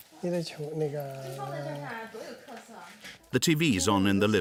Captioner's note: both speaking foreign language